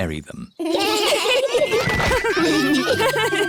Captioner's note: laughter